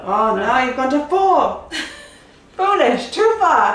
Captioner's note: laughs